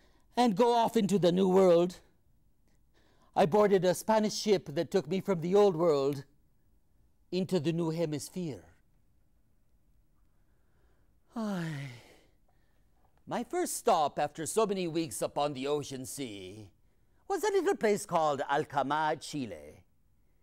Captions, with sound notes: and go off into the New World. I boarded a Spanish ship that took me from the Old World into the new hemisphere. (sighs) My first stop after so many weeks upon the ocean sea was a little place called Atacama, Chile.